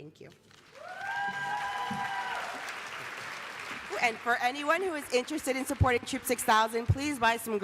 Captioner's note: applause